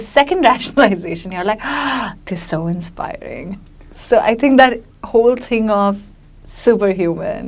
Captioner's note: inhales deeply